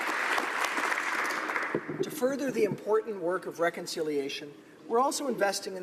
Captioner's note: applause